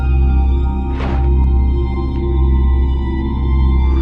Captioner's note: thudding